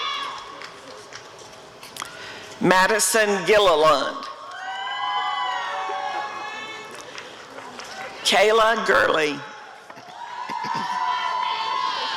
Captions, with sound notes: Madison Gilleland [applause and cheering] Kayla Gurley [applause and cheering]